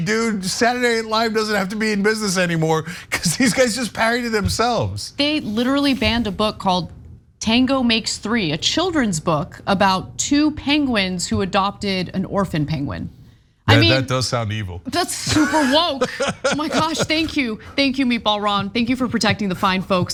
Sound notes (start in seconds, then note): 15.0 laugh